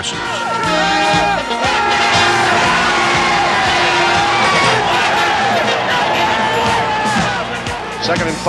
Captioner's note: crowd cheering